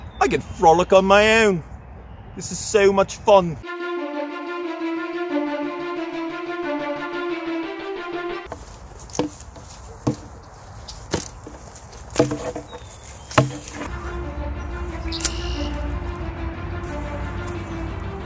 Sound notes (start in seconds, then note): 3.6 dramatic music; 9.0 shield thumping; 13.8 dramatic music; 14.8 bird chirps